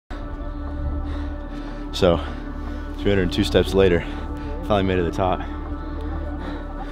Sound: breathing heavy

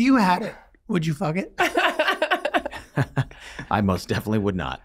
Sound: laughing

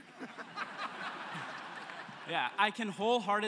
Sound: laughter

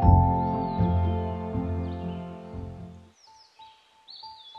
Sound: birds chirping

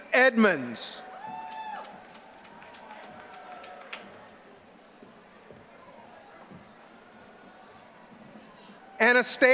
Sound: applause

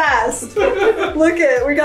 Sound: laughing

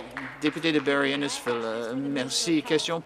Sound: applause

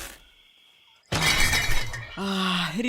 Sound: coffin opening; whispering; glass bottles clattering

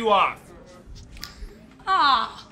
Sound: snap

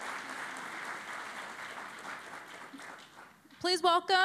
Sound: applause

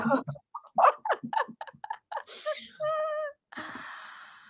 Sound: laughs

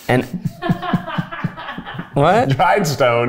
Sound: crew laughing

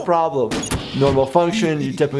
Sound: Bender laughing

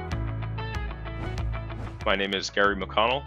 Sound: gentle upbeat music; screen whooshes

